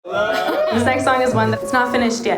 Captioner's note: audience cheers